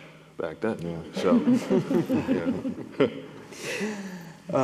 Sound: all laughing

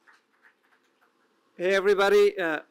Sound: applause

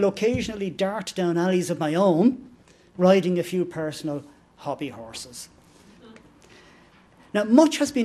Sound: laughter

